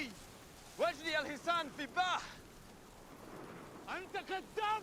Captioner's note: speaking in arabic